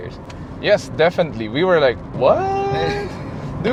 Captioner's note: laughs